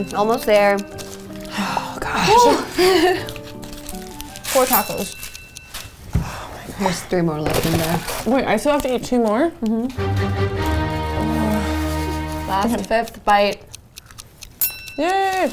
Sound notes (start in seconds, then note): 9.9 menacing music; 11.0 groaning; 14.6 bell ringing